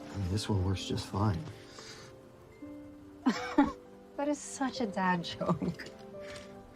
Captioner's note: laughing